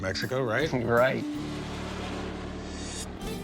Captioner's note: jet roars